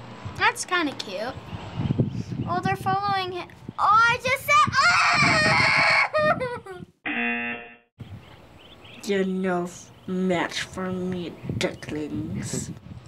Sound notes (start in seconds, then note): 6.1 moaning; 7.0 buzzer